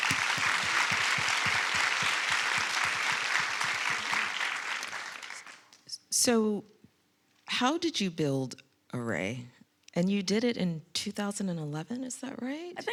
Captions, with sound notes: (audience applauding) So how did you build ARRAY? And you did it in 2011, is that right?